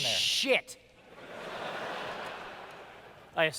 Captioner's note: laughter